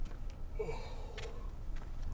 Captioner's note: yawn